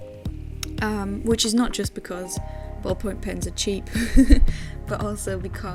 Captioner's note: chuckles